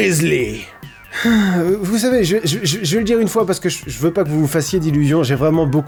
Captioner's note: sigh